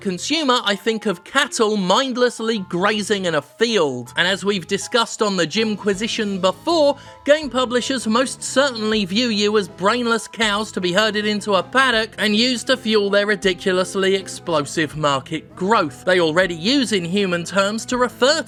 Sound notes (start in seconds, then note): none